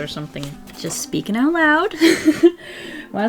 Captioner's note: laughs